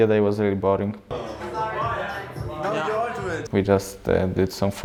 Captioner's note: group chatter overlapping